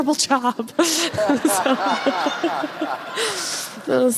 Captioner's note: audience laughs